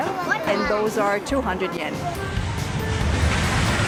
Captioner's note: none